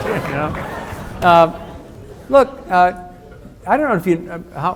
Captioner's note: audience laughs